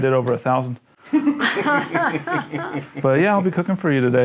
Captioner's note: laughing